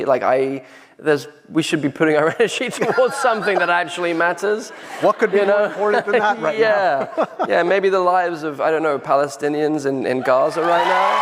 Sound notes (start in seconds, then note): 7.2 laughs; 10.7 applause